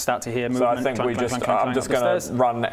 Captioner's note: clang-clang-clang-clang